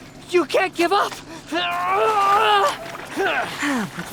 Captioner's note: grunting